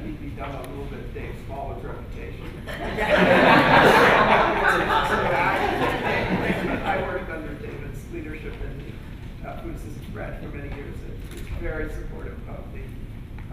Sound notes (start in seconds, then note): 2.6 laughter